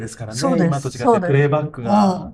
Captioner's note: laughs